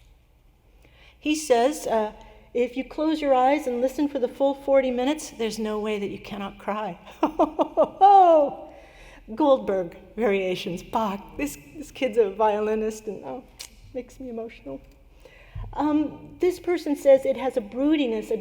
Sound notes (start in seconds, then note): 7.1 laughter